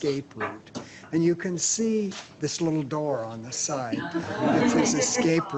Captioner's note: audience murmurs "Ah-ha"